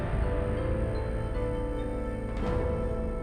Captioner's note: insects chirring